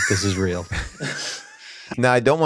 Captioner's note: people chuckle